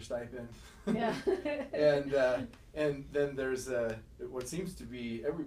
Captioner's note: laughing